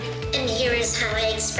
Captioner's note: robot talking